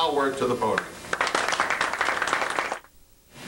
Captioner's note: applause